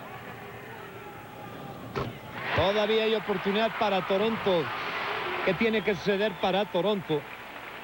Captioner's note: crowd cheering loudly